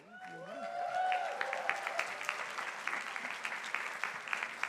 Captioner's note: crowd applauding